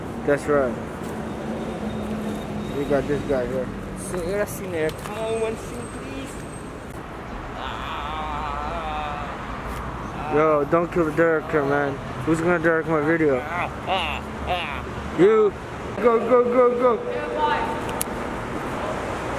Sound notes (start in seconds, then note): 4.2 in Nepali; 7.5 screaming in agony; 14.4 continuation of the scream in agony